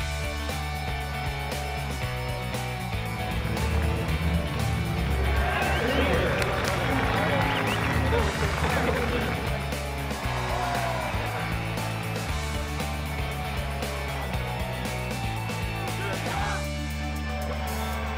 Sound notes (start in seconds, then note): 5.1 crowd cheering; 8.3 upbeat music; 17.9 crowd cheering